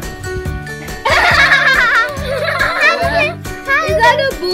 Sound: laughing

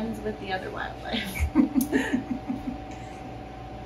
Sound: laughing

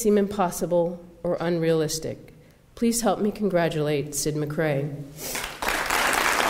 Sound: applause

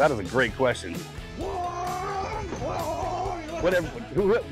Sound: whooping

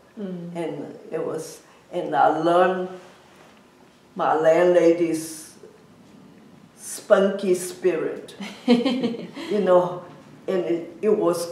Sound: laughs

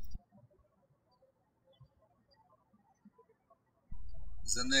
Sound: birds chirping

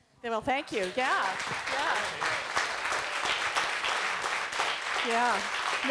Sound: applause

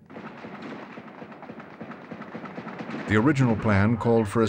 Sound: guns firing

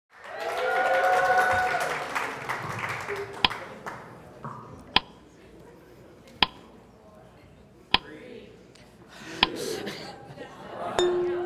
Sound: applause

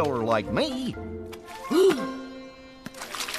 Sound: gasp

